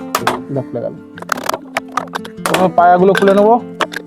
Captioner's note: sound of pipes being removed